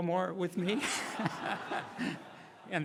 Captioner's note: laughing